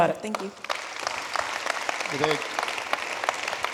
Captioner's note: audience applauding